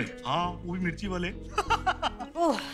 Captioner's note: Laughs